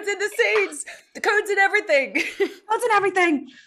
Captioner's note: chuckles